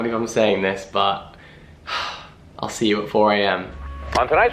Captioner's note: sighs; chilled out music